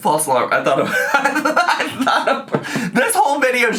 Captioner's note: laughs